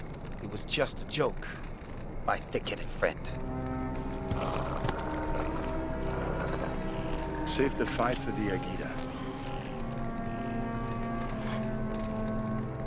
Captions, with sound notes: - It was just a joke my thick headed friend. (somber orchestral music) - (growling) - Save the fight for the Agita.